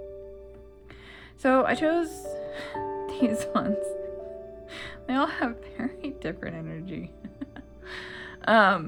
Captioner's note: laugh